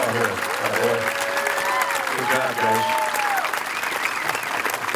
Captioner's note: crowd cheering